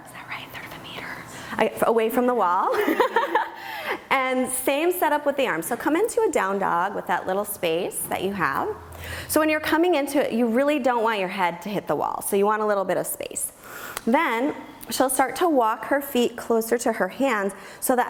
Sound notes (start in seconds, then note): 2.8 laughs